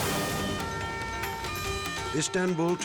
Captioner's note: graphic whooshes; siren wailing; tense music